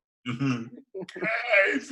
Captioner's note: laughs